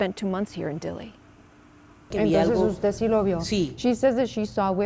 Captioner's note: speaking Spanish